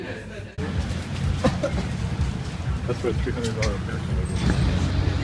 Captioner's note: coughing